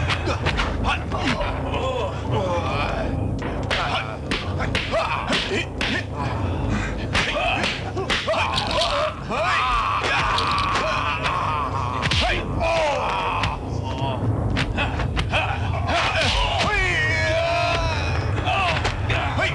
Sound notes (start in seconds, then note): 8.0 crack; 10.1 groan